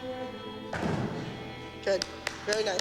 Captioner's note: applause